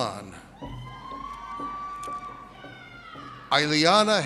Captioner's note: audience cheers